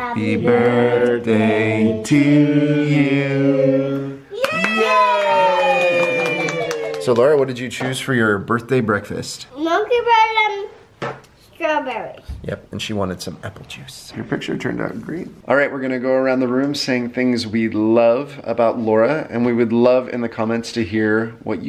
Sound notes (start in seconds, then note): 4.4 applause